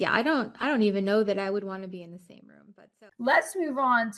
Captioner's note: audio fades out